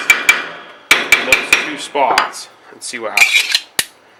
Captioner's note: hammering onto metal